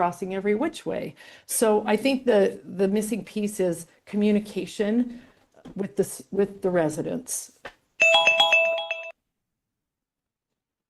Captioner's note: bell